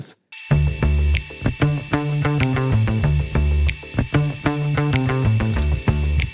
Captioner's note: motor buzzing; groovy music